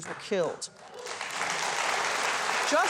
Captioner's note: audience applause